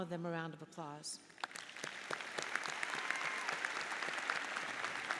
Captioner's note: audience applauds